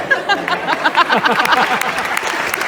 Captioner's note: cheering